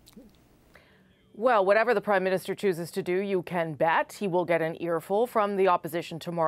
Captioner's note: speaking French